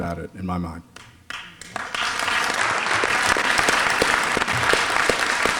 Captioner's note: applause